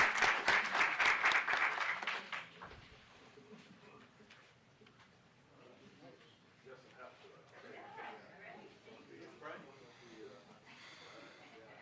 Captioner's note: applause